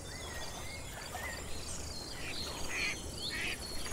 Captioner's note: birds chirping, ducks quacking